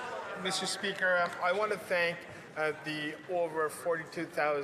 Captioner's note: applause